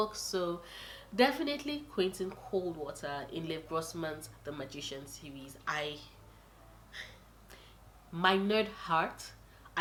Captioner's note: sigh